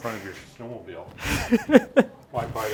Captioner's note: laughing